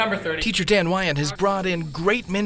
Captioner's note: voiceover